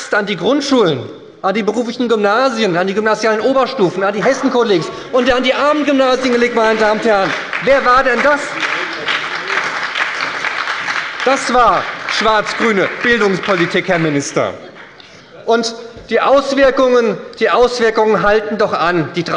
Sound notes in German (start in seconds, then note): 8.4 Beifall bei der SPD und der FDP